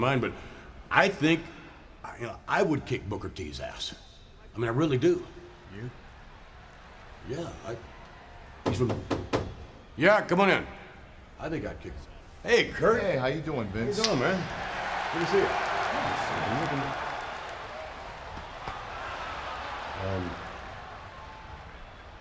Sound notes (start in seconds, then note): 8.6 door banging; 16.7 audience cheering